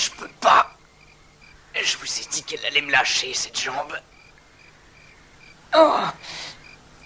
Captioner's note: groans